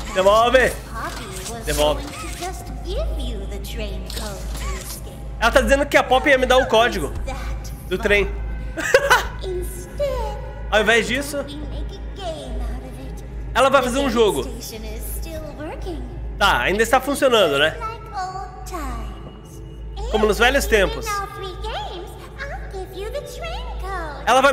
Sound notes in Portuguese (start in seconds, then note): 8.7 risos